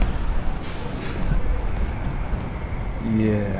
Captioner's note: Jack chuckles